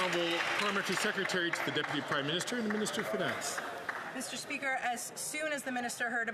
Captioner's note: some Applause